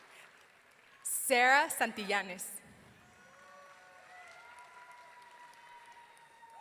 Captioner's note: audience cheering